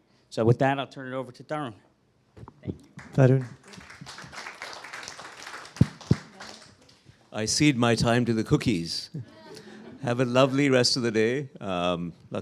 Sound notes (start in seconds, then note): 2.9 applause